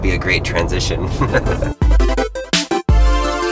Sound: laughs; upbeat music

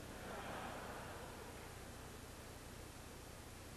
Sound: audience laughs

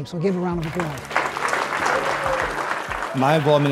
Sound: children clapping

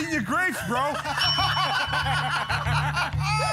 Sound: laughter; ding!

